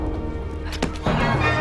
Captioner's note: thud